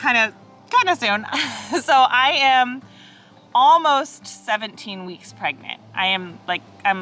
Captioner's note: chuckles